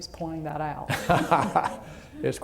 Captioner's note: laughter